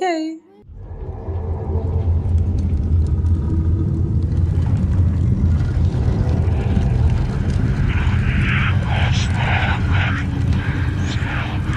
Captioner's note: menacing sounds and whispers